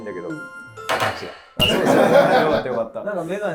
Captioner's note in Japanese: スタッフ：笑い